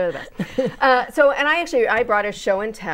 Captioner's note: laughing